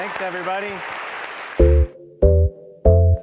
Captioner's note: applause